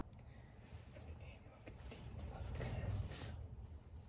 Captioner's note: whisper